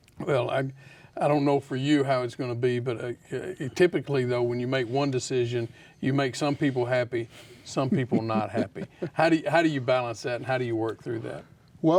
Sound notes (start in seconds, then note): 7.8 chuckles